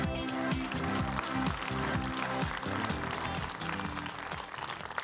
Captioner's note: applause